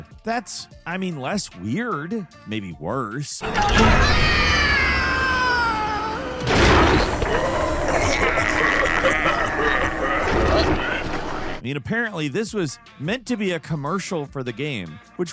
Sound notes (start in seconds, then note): 3.4 shrieks; 7.5 villains laugh